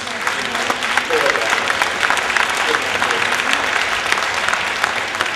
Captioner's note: applause